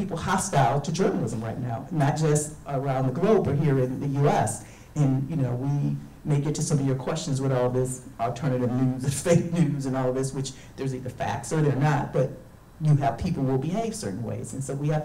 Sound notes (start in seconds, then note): none